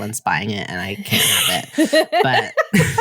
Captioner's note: laughter